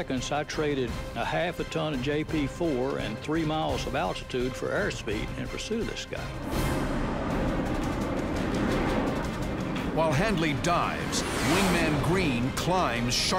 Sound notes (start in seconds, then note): 5.7 plane roaring